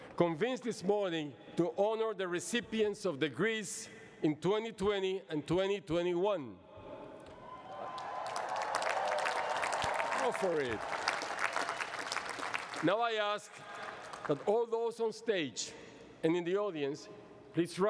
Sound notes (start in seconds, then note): 7.4 cheering and applause